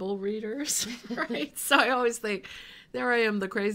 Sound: laughing

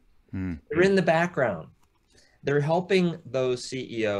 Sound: chuckling

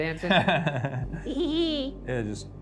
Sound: laughs

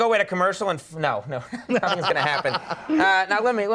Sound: Colin laughing

